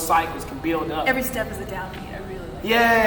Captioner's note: faintly speaking